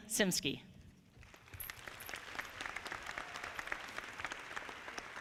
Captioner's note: audience clapping